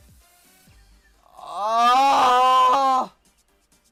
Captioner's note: even more groaning